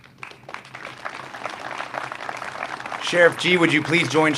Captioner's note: crowd applauds